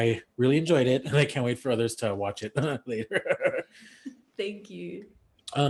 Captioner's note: laughs